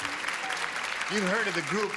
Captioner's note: clapping